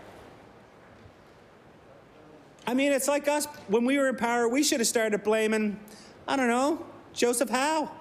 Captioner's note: some Applause